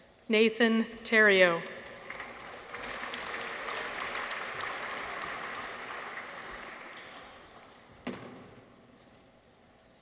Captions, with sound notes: Nathan Theriault. -(people cheer) -(audience applauds)